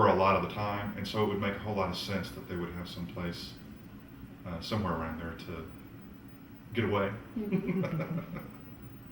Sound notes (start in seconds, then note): 7.4 laughs